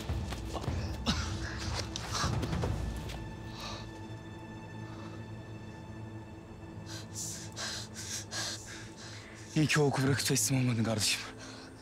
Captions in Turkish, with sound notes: (Öksürme sesi) (Nefes sesi) (Nefes sesi) İyi ki o oku bırakıp teslim olmadın gardaşım.